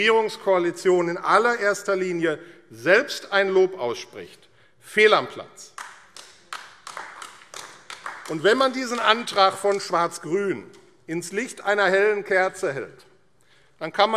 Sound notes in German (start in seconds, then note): 5.7 Beifall AfD